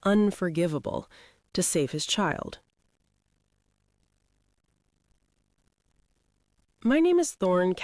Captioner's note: short pause